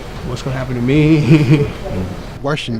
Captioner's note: laughs